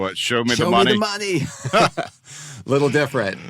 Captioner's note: laughs